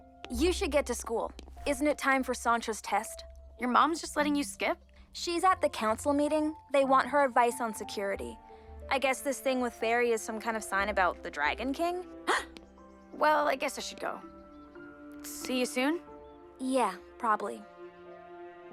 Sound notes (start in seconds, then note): 12.3 Jessa gasps